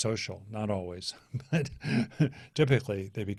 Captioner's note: laughs